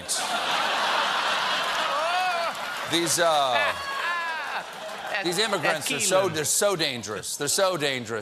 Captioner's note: laughter